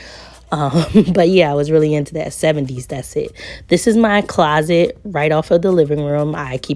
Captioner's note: laughs